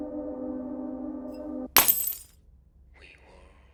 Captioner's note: glass breaking